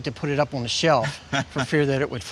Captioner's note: chuckles